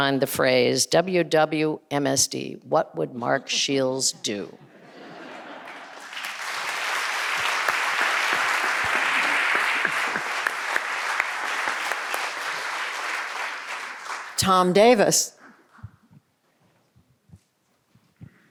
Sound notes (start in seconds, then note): 5.9 audience applauding